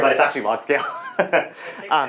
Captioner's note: laughs